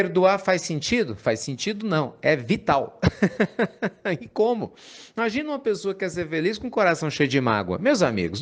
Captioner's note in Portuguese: Risos